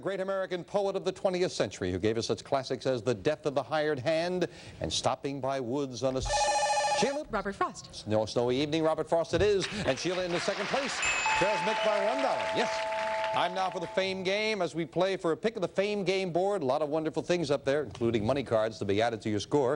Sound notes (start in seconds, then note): 6.2 beeping; 11.0 bell ringing